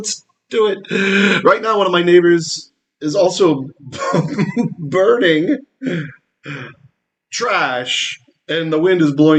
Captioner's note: laughing